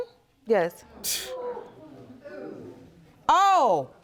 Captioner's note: scoffs